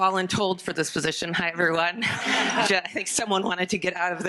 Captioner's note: audience laughing